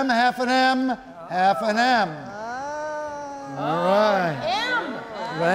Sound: some exclaiming

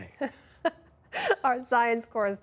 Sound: laughter

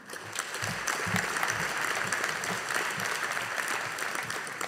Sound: audience applauding

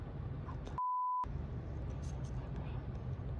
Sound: beep

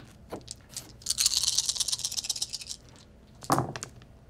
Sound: dice rattle

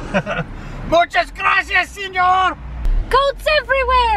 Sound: yells in foreign language

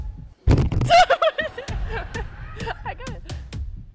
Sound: shrieks

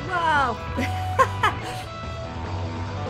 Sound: laughs; rock music

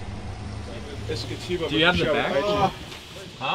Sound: groans in relief

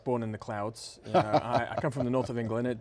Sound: laughs

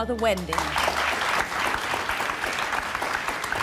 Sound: applauding

